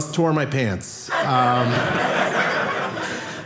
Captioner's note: audience laughing